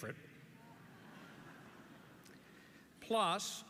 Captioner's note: audience laughs